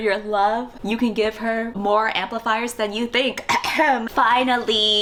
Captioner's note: fake cough